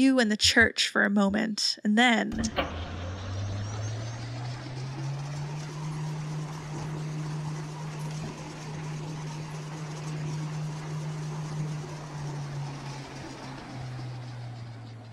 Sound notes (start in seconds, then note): 2.3 mechanical clicking and whirring noises